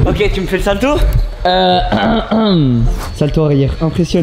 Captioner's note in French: raclements de gorge